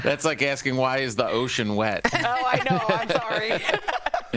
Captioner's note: laughter